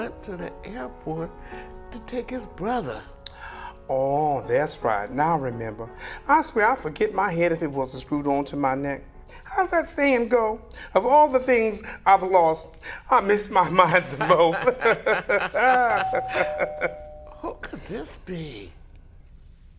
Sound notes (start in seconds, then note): 13.7 laughter; 15.9 ding dong